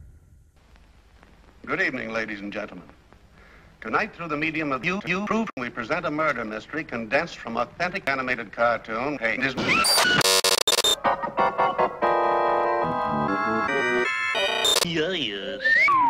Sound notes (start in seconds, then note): 14.6 more stuttery noise